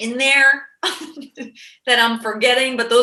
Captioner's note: laughing